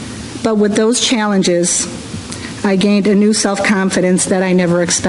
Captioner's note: none